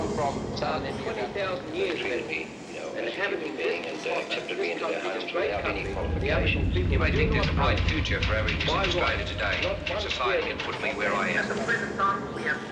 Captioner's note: radio presenters speak